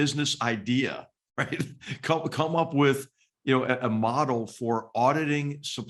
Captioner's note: laugh